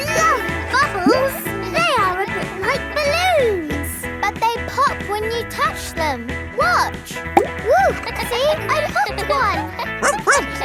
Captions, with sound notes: I love bubbles! They are a bit like balloons. But they pop when you touch them! Watch! -Whoo! -(KIDS LAUGHING) See, I popped one.